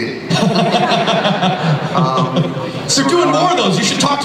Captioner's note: laughter